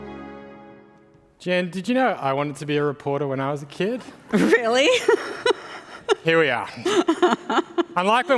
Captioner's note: laughs